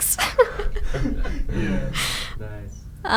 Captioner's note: laughing